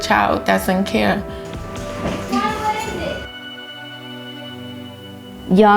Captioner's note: children talking, music playing